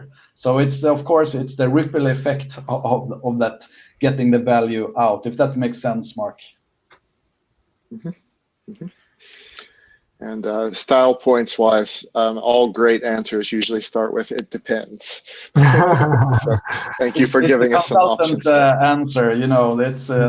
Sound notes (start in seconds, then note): 15.4 laughter